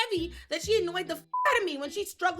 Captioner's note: beep